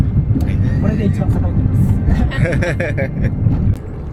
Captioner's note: laughs